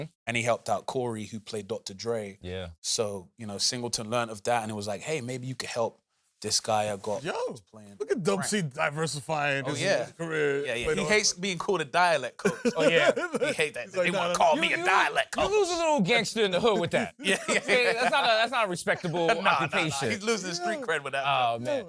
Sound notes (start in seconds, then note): 12.3 laughs; 14.1 south central accent; 16.4 laughs